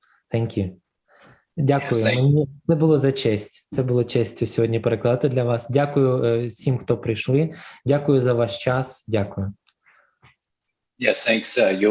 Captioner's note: foreign Language